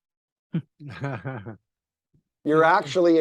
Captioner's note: laughs